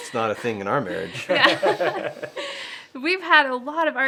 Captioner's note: laughing